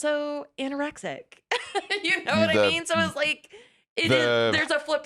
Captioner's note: laughs